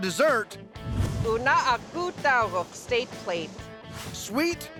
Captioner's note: speaking yupik